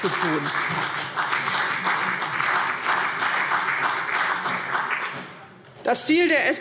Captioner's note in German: Beifall CDU und BÜNDNIS 90/DIE GRÜNEN